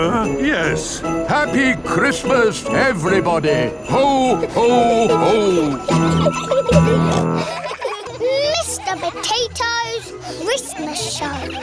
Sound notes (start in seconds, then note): 6.4 children giggling; 6.4 peppa snorts